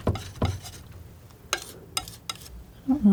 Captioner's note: tapping